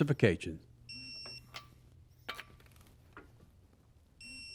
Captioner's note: tool beeping